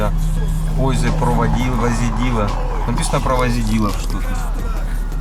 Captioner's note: tries reading in Czech